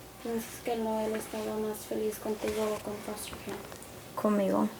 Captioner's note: speaks in foreign language